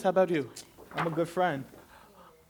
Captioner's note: paper rustling